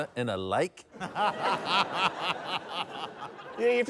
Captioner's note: laughter